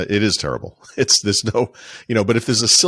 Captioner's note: laughing